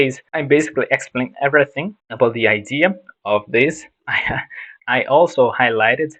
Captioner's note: haha